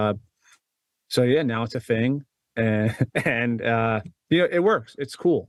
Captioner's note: laughs